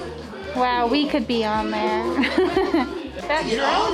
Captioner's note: laughs